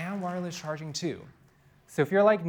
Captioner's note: applause